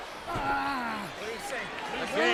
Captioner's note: Shawn exclaiming